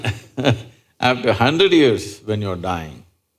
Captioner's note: laughs